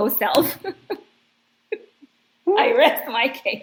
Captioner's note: laughs